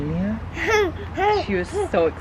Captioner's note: laughs